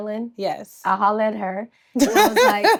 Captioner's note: Treasure laughs